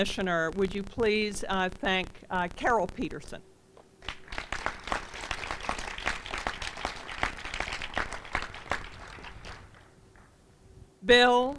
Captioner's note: applause